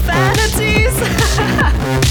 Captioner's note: laughing